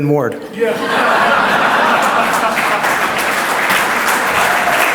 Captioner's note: audience laughs